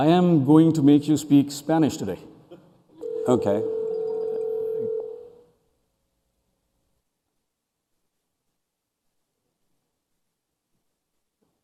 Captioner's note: phone rings